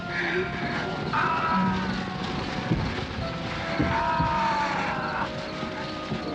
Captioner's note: ghouls screaming